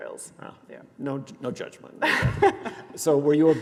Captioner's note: laughs